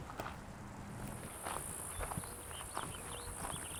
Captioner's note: footsteps padding; birds chirping